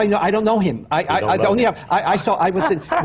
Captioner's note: laughs